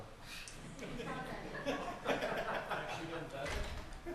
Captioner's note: laughter